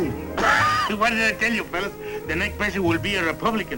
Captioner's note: laughs